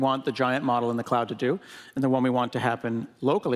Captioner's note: none